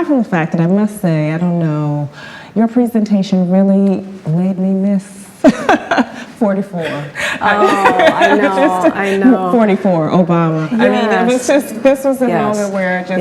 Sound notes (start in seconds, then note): 6.8 laughs